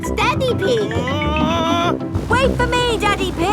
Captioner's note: screaming